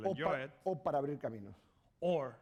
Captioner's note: speaking spanish